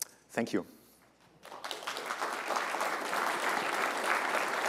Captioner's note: applause